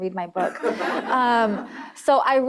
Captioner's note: laughter